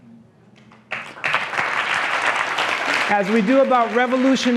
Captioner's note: applause